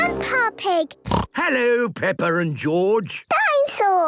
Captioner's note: snorts